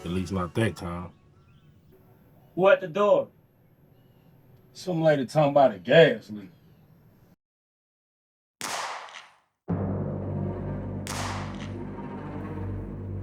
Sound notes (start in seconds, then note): 8.6 gun shoots; 9.7 suspenseful music